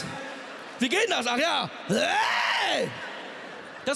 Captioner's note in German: schreit